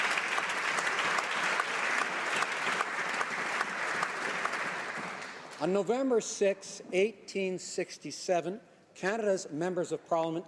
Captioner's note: applause